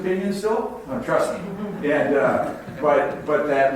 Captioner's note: audience laughs